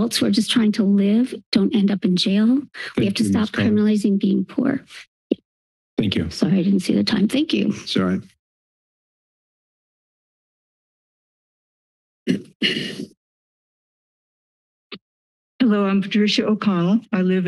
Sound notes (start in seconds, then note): 9.1 silence; 12.2 clears throat; 13.6 silence